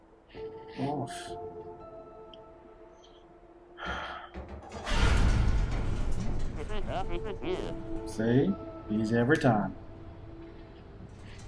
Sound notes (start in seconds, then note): 3.7 sighs